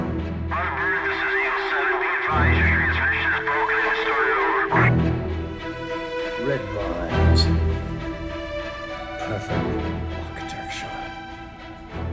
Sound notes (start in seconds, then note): 0.1 intense music; 0.4 radio chattering